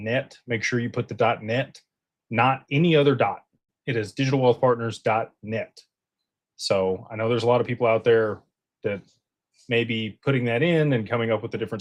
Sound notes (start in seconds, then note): none